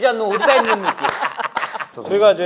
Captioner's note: laughing